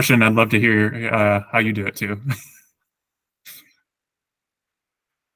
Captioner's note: laughs